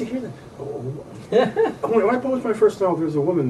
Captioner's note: interviewer laughs